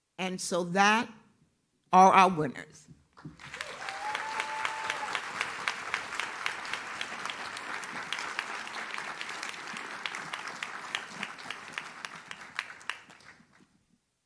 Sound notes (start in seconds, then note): 3.6 audience cheers